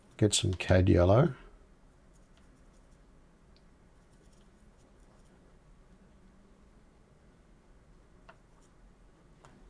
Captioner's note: silence